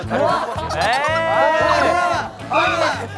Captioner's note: haha